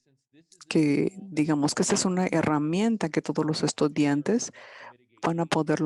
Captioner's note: speaking in foreign language